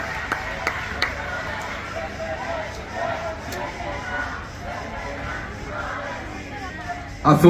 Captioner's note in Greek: χειροκρότημα